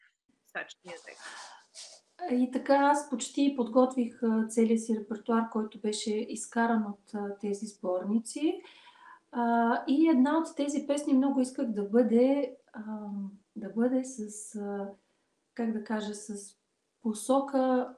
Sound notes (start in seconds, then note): 1.9 foreign Language followed by English Interpreter